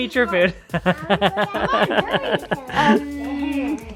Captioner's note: laughs